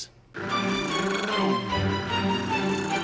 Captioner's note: imitating engine running